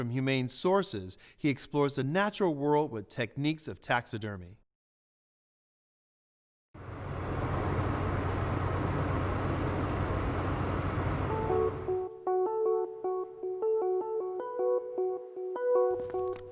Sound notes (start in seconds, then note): 6.8 car driving